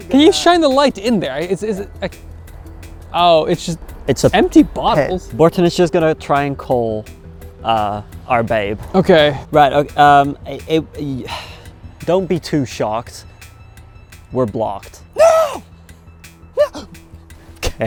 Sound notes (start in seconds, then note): 11.1 sighs; 16.6 gasps